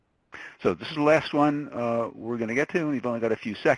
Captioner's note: voiceover